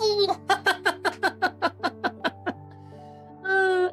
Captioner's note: laughter